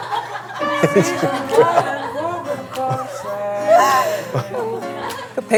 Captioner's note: almost crying